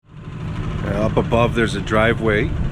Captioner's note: boat engine chugging